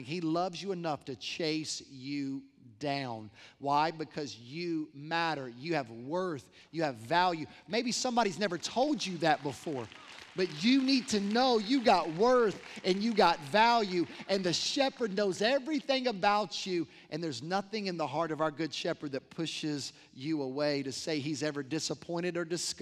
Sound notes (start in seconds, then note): 8.3 applause